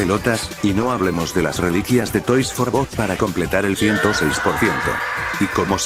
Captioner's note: scream